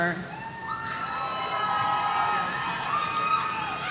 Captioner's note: audience cheering